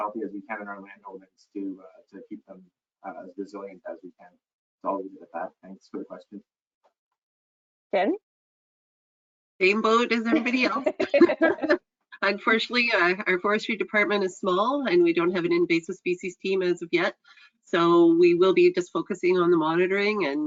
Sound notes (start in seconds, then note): 10.1 laughs; 10.2 chuckles